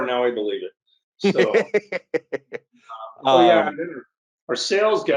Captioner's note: laughs